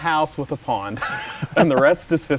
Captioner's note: laughing